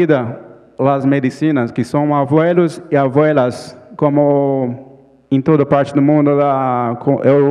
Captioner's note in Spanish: Ponente habla en portugués